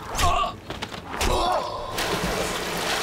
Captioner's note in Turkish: Ok saplanma sesi